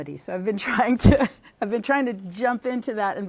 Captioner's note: laughter